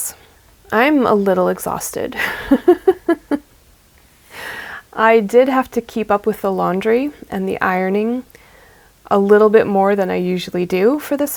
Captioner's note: laughs